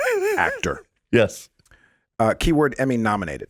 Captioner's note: laughing